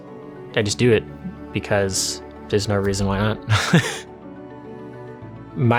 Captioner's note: laughs